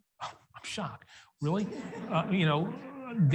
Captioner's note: audience laughs